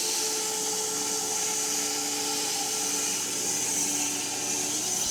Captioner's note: mill whirring